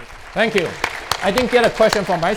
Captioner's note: audience clapping